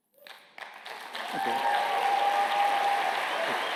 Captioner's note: applause